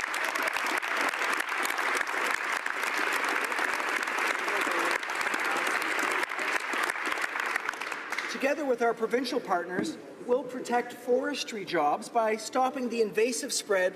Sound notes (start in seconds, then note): 0.0 applause